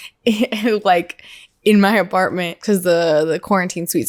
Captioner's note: laughs